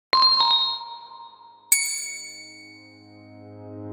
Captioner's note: bell chimes gently